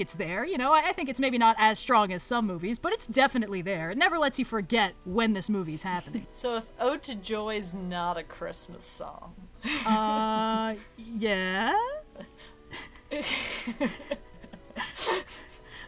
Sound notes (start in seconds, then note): 9.6 laughs; 12.6 laughs